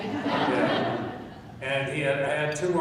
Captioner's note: laughing